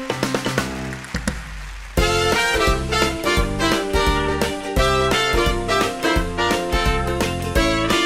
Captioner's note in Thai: ปรบมือ